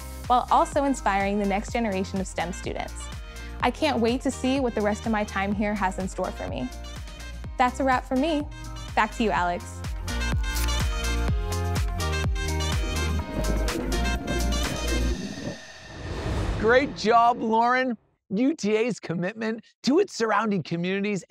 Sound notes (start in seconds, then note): 10.2 upbeat music; 13.0 fire blazing; 13.5 upbeat music